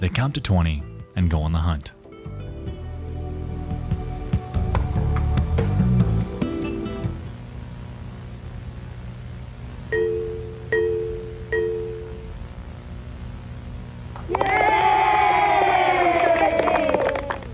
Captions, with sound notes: They count to 20, and go on the hunt. (soft music) (computer chiming) (crowd cheering)